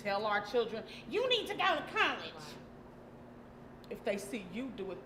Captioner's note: screechy voice